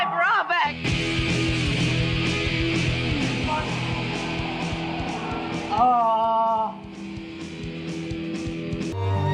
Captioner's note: in pain